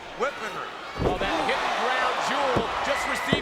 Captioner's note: mat thumping